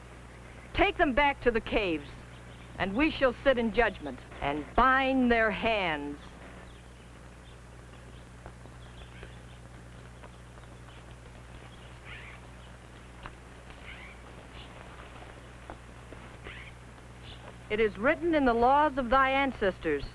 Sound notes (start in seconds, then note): 8.7 birds chirping